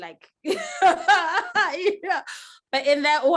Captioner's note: women laugh